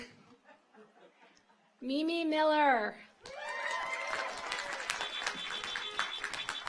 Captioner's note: audience applauds; car horns honking